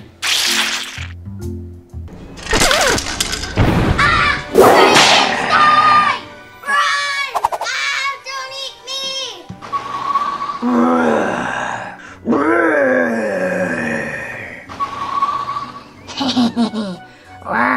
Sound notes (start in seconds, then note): 0.2 sandwich squishes; 2.3 house shaking; 10.6 monster growling; 16.1 monster laughing